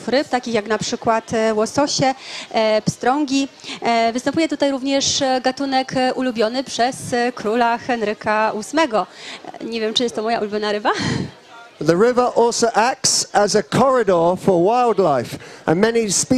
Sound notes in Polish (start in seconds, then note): 13.5 śmiech